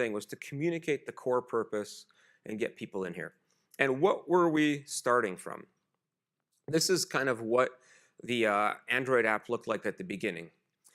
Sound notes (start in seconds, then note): none